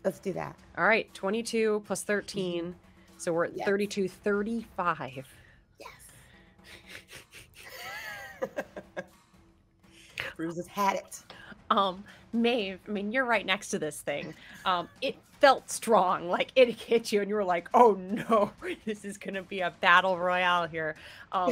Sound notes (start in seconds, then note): 6.7 laughs; 21.2 laughs